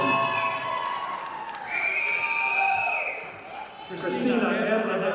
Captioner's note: audience applauding